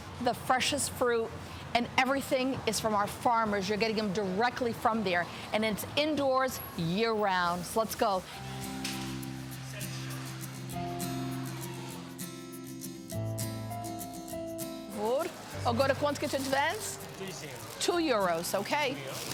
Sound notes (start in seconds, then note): 9.2 upbeat music; 17.4 vendor speaks in foreign language